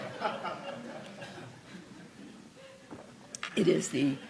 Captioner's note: laughter